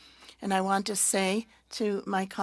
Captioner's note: speaking French